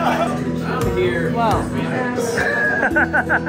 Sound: laughs

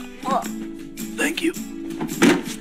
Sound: quietly; imaginary sound of Grayson hitting the deck

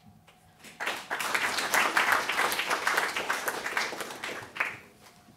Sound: audience applauding

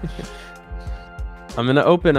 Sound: laughs

